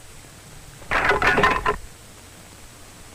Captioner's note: clunk!